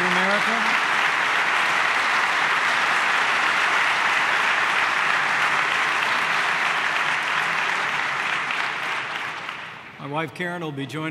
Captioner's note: applause